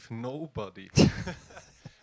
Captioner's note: laugh